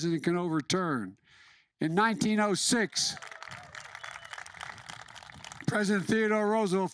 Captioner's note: applause